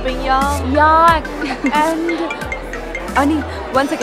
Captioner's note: Phone ringing